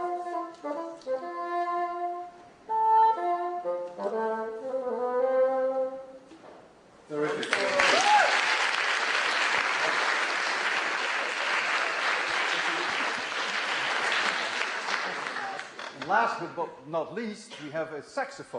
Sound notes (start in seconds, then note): 0.0 plays bassoon; 7.2 applause, cheering